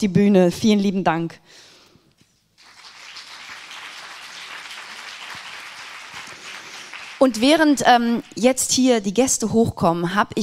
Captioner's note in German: applaus